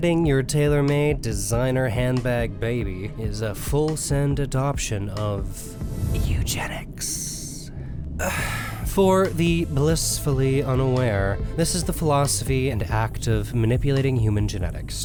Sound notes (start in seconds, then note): 6.0 whispers; 8.2 sighs